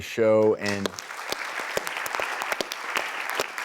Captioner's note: clapping